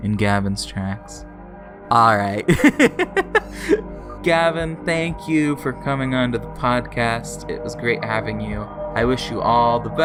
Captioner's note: laughs